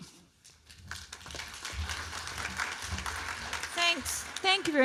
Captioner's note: applause